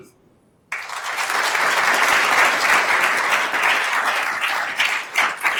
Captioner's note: attendees applauding